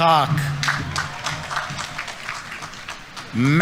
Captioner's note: audience applauding